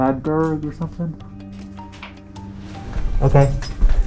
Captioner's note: rocks clattering